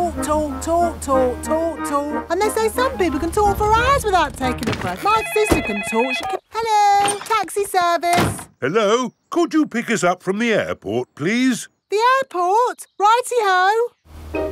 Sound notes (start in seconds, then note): 5.0 cellphone ringing